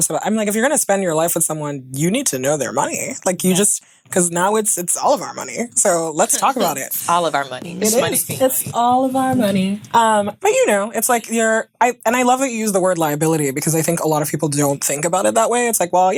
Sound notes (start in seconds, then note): none